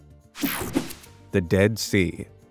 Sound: screen whooshing

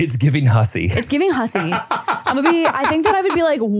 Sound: laughing

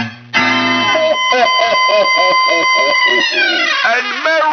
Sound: laughing

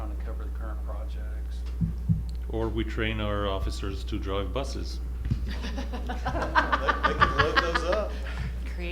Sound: laughter

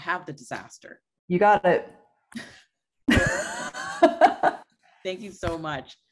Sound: both laughing

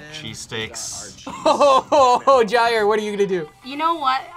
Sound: laughs

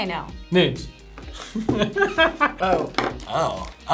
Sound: laughs

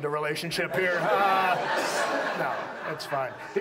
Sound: audience laughs

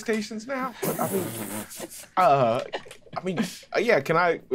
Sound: players laughing

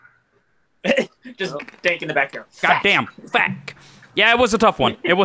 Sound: chuckle

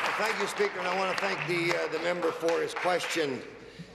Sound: applause

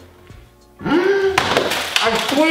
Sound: gasps

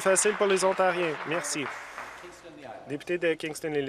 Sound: some Applause

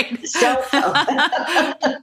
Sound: laughter

